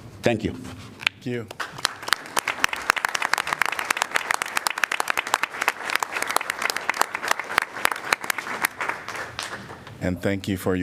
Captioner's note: applause